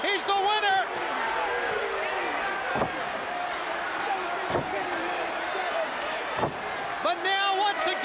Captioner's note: crowd chatter